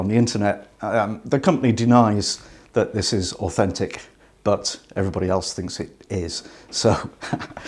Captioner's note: laughs